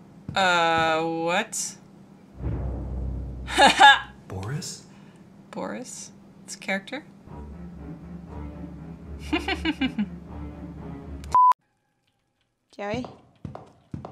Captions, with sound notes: uuuuh, wut haha! boris it's a character (evil laughter) Joey?